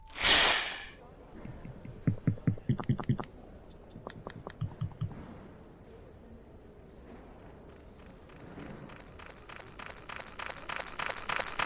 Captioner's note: running